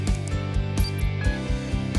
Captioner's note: beeps